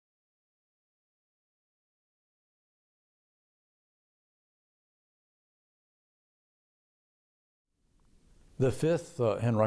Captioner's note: silence